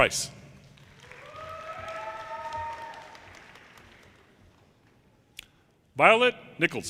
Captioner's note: audience cheers and applause